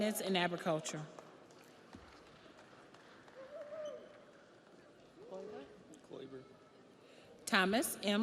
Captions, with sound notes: and Agriculture. (audience applauds)